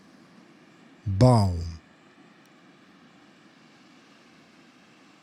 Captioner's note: german